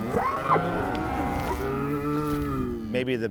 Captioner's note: mooing